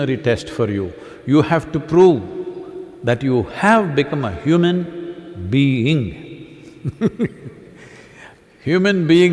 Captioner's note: laughs